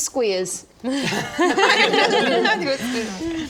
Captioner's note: better-late-than-never laughter